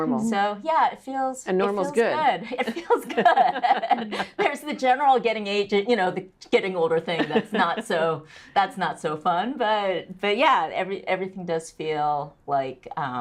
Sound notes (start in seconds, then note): 2.4 laugh